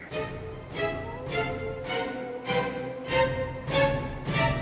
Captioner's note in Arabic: الذئب يعوي